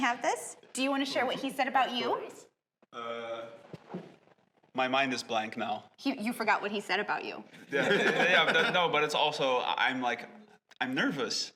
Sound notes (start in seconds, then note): 7.6 laughter